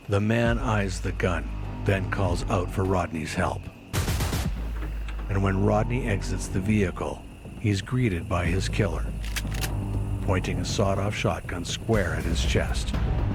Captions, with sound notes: The man eyes the gun then calls out for Rodney's help. And when Rodney exits the vehicle, he's greeted by his killer, (gun cocks) pointing a sawed off shotgun square at his chest.